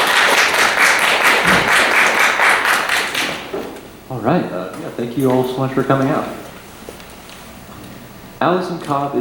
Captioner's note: applause